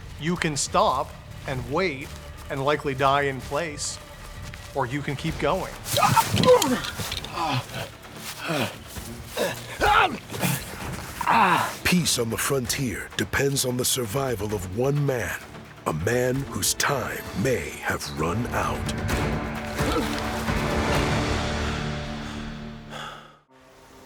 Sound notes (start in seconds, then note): 8.5 yells